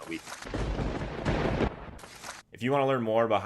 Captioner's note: lightning crash